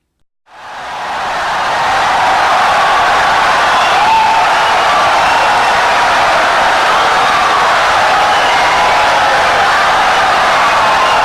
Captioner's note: wild applause and cheering for 17 seconds